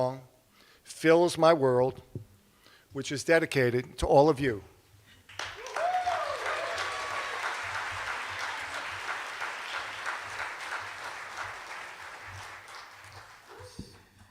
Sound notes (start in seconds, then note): 5.3 cheers and applause